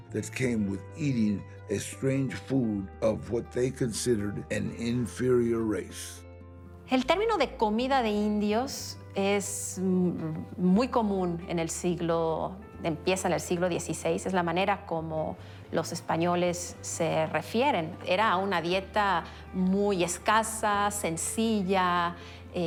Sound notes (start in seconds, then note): 6.9 in Spanish